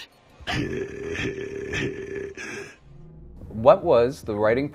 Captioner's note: deep throated chuckle